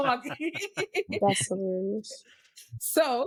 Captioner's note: laughing